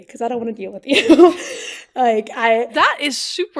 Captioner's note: laughs